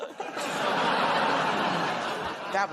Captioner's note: laughter